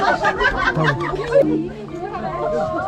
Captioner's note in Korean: 웃음